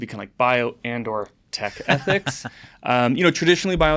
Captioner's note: laughs